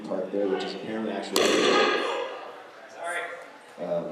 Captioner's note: extremely loud microphone noise